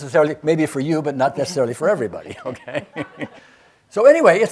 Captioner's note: chuckles